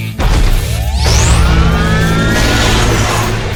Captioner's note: sword whirring; sword crashes